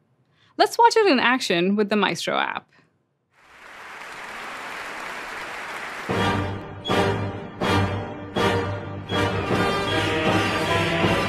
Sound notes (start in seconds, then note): 3.3 applause; 6.0 classical music